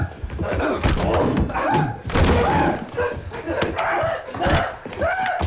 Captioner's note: screaming and Grunting